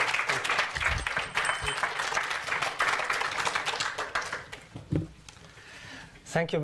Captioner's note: bell tinkles